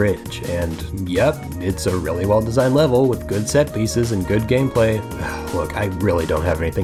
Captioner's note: sigh